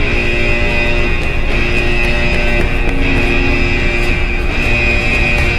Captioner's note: hurried footsteps clacking